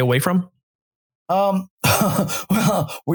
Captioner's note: chuckles